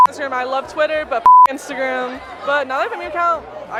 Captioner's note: beep